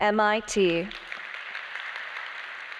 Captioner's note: applause